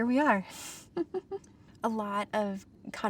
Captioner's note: laughs